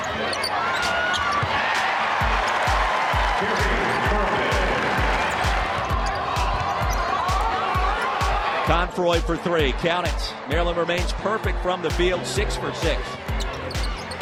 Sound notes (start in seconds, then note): 1.7 cheers and applause